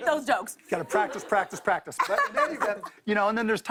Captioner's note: laughter